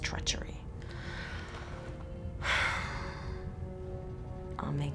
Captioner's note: sigh